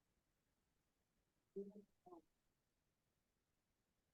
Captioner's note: no audio present